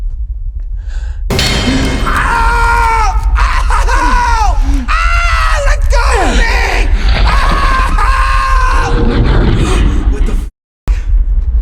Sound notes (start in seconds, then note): 1.4 bone cracking; 1.9 Alex screaming; 8.1 screaming